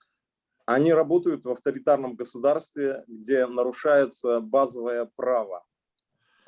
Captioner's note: speaking Russian language